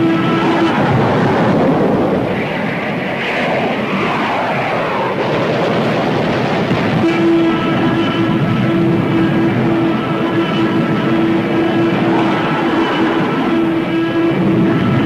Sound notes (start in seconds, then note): 0.2 explosion booms; 2.5 plane engines revving; 5.0 guns firing; 6.4 explosion booms; 9.0 plane whooshing